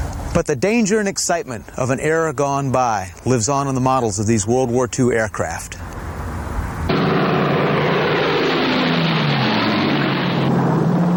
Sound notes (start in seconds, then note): 5.6 engines roaring